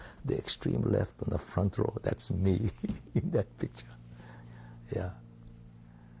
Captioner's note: laughs